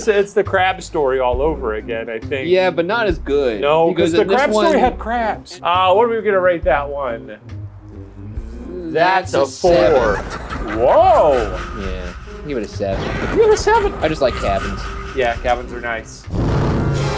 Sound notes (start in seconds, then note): 9.6 Joker laughs